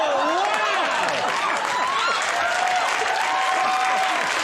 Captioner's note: audience cheers